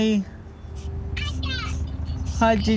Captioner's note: child On Phone